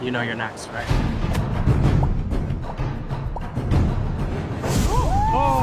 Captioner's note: intense music; popping sound effect; whooping